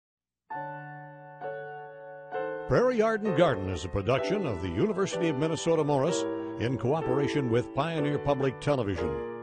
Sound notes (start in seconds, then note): 0.7 mellow piano music; 2.7 voiceover